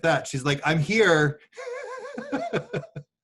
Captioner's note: laughs